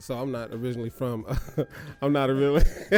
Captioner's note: chuckles